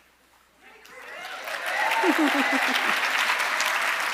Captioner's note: audience applauding